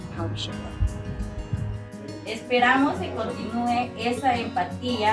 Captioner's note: partner speaking in foreign language